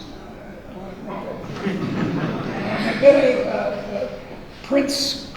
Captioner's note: laughing drowns out speaker